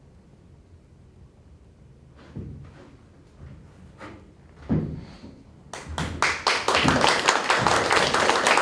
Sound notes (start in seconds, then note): 1.1 footsteps; 5.7 applause